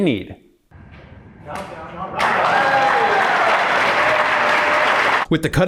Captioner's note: applause